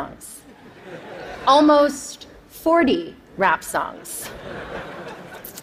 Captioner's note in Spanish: Risas